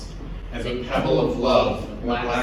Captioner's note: in Unison